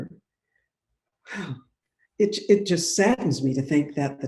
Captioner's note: exhales